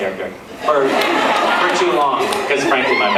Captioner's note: laughs